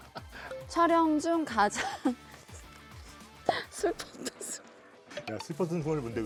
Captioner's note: holding back laughter